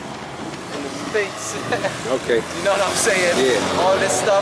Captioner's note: laughs